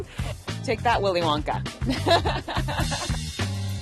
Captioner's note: laughter